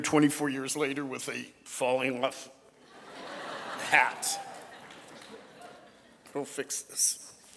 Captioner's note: audience laughing